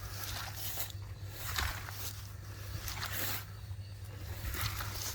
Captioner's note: footsteps sloshing